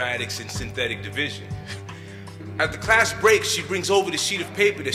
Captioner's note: laughs